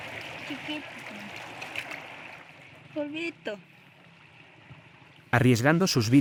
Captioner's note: child speaking in foreign language